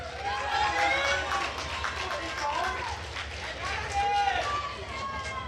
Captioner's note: attendees cheering and applauding